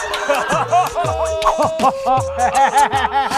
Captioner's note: American-style laughter; american-style laughter, spreading from person to person